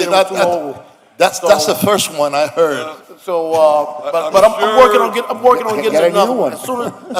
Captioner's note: laughter